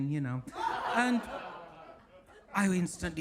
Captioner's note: audience laughs